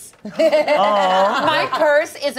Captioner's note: laughs